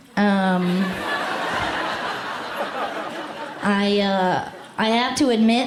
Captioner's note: laughter